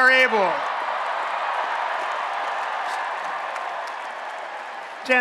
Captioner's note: applause and Cheering